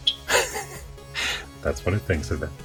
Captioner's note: laughs